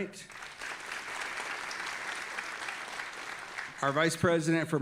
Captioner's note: audience applauding